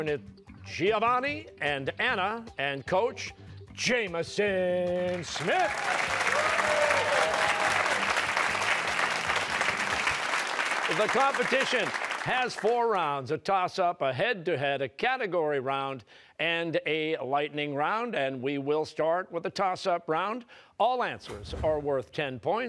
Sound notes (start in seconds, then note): 5.0 cheers and applause